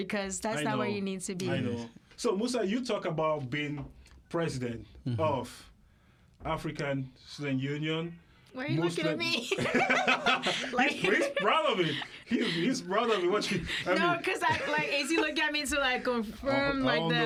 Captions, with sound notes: because that's not where you need to be. So Musa, you talk about being president of African Student Union. Why are you looking at me? [LAUGHTER] He's proud of me. He's proud of it. Watch me. No, because I-- like, is he looking at me to confirm like the--